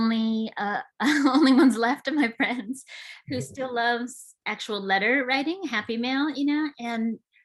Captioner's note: chuckles